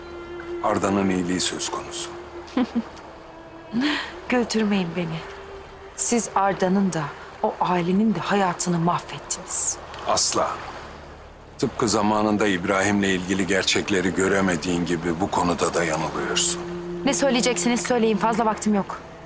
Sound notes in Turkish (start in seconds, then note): 2.5 Gülme sesi